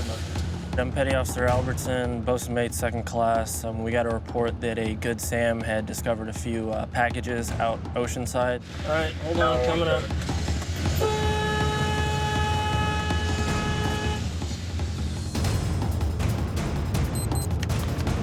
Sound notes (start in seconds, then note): 10.9 horn blaring; 14.5 dramatic music